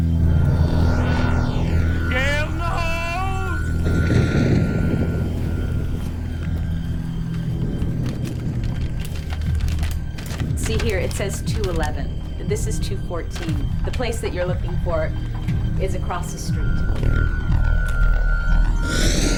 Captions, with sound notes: (wind rushing) - Gail, no! (thunder crashing) (rustling) - See here, it says 211. This is 214. The place that you're looking for is across the street. (somber synthesizer and string music)